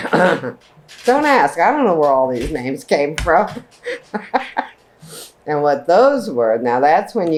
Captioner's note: laughs